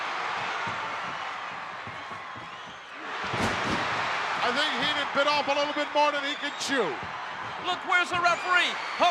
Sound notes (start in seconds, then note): 3.3 audience cheering